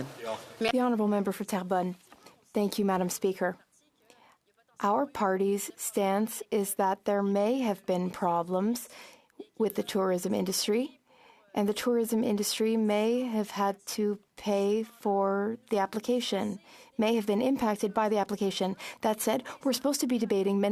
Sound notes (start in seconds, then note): 6.2 speaking French